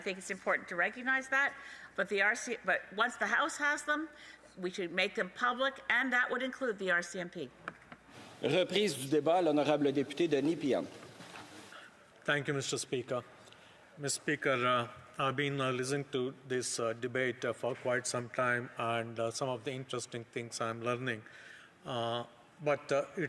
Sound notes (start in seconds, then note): 16.0 speaking French